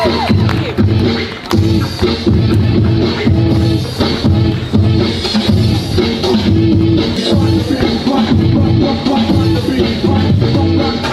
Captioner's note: speaks in Hindi - not transcribed